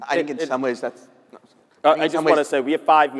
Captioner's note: speaking faintly